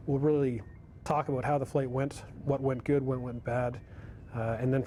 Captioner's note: voiceover